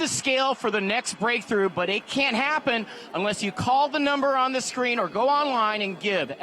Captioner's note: applause